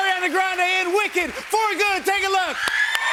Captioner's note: cheers and applause